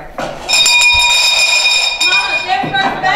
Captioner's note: school bell